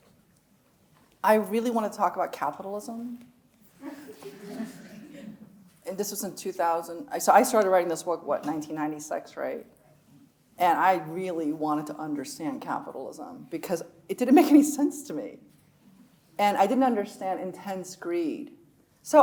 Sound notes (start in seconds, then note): 3.8 audience laughs